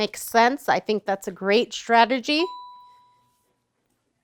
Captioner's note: ding